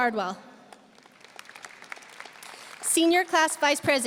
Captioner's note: audience applauding